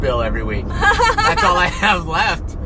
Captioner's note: laughs